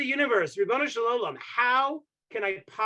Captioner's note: speaking Hebrew